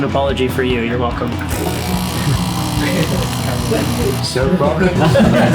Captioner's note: coffee maker noises